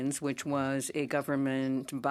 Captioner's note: speaking French